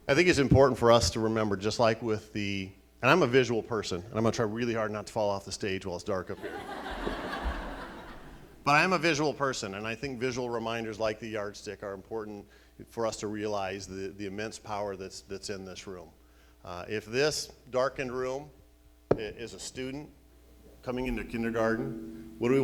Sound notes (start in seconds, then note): 6.4 laughing